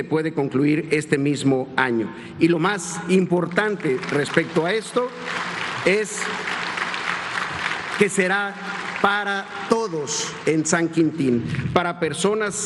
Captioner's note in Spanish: aplausos